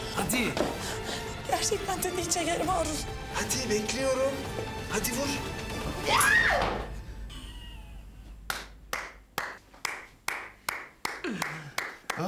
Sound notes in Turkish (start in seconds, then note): 6.0 Çığlık atar; 8.5 Alkışlıyor